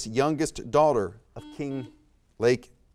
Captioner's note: buzzer beeps beeps